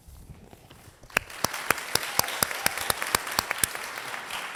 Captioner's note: audience applauds